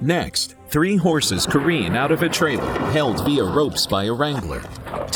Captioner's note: hooves clattering